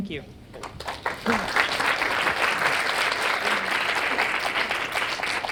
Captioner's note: audience applause